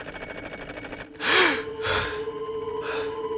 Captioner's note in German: Klingeln; Erschrecken; Mysteriöse Musik